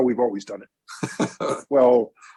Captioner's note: laughter